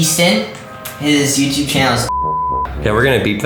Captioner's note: beep